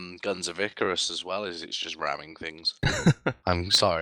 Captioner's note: laughs